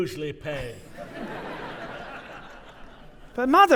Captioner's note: audience laughing